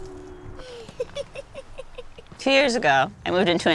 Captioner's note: laughing